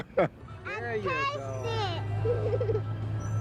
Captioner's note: laughing